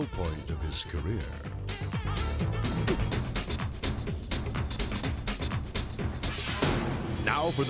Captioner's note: upbeat music; leg thumps; graphics booming